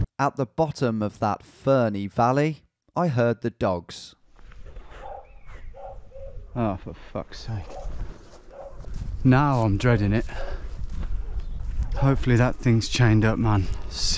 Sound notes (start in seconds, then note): 0.3 voiceover; 4.8 distant barking